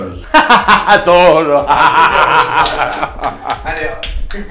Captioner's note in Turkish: kahkaha